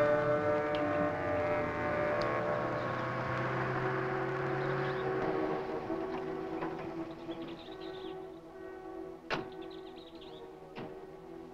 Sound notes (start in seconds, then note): 7.2 birds chirping